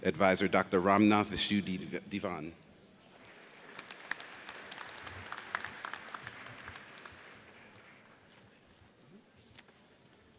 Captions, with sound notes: Advisor, Dr. Ramaa Vasudevan. (audience applauds)